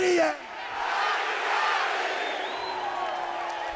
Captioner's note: cheers